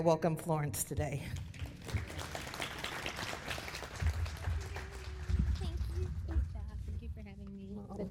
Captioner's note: applause